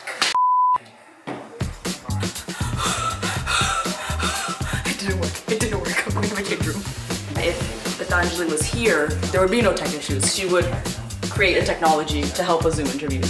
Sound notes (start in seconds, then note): 1.8 exhaling